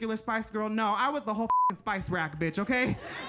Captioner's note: beep; audience laughing